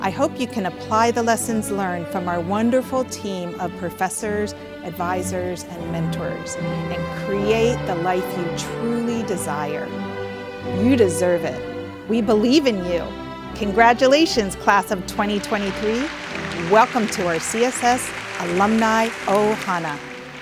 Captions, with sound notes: I HOPE YOU CAN APPLY THE LESSONS LEARNED FROM OUR WONDERFUL TEAM OF PROFESSORS, ADVISORS AND MENTORS AND CREATE THE LIFE YOU TRULY DESIRE. YOU DESERVE IT. WE BELIEVE IN YOU. CONGRATULATIONS, CLASS OF 2023. [APPLAUSE] WELCOME TO OUR CSS ALUMNI 'OHANA.